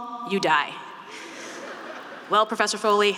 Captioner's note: students laughing